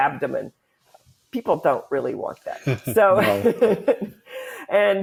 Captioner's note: laughs